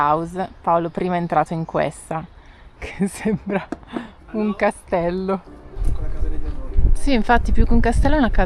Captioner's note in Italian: risate